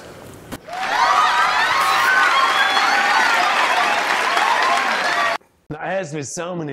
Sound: audience clapping and cheering

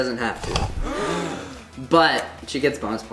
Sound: crowd gasps

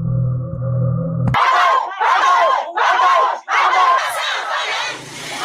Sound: people chanting in Chinese

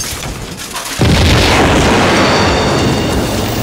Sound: booooooooooom

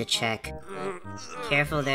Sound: Shot Put groans as he tries to think

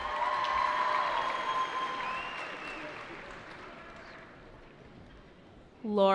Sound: cheering

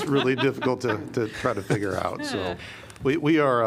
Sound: laughter

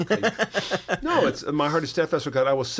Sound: laughter

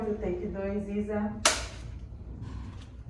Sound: clapperboard hits

